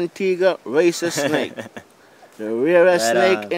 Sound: laughter

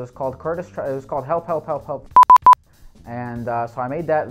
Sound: beep

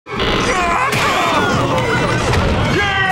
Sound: screaming

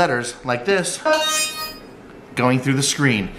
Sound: high pitched electronic sound effect

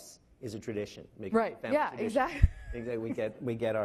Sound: laughing

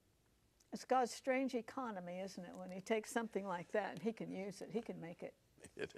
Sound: coughing

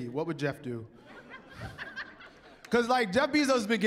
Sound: laughter

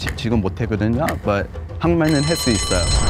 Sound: snaps fingers; continues to speak Korean; bell rings

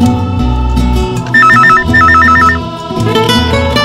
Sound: phone rings

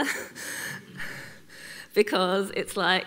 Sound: laughs

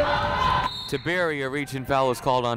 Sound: whistle blowing

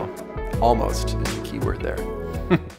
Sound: chuckles

